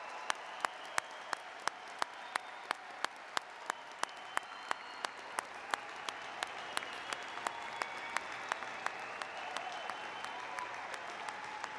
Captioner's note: applause; cheers and applause